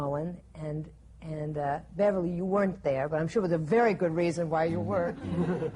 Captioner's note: laughter